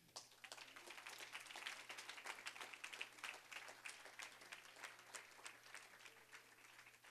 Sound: applause

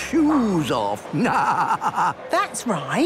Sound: laughing

